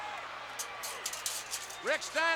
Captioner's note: metallic clanking